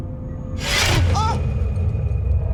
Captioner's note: ominous music; gasps